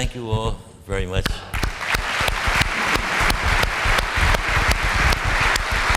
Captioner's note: applause